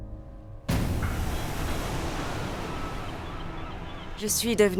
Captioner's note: waves crashing; birds cawing